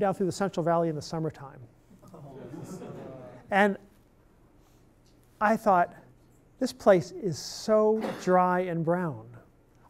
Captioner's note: laughing